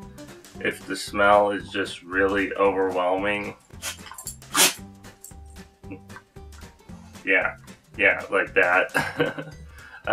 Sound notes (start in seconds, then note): 3.8 dog sneezes; 9.0 laughs